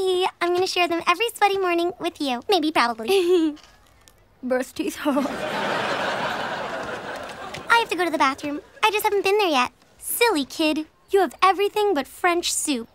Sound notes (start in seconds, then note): 5.0 laughing